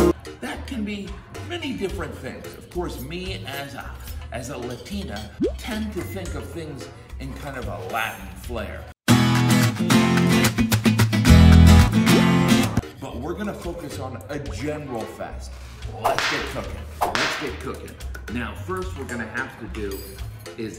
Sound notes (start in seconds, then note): 9.1 spanish guitar music; 17.0 whip cracking